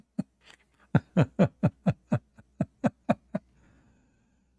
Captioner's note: Ketawa